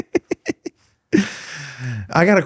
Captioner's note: laughing